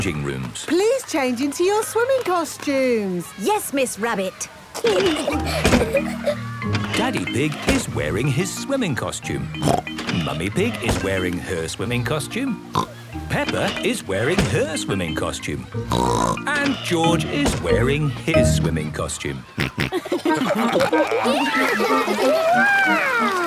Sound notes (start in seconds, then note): 4.8 giggling; 9.4 snorts; 15.8 snorts; 19.4 snorting, giggling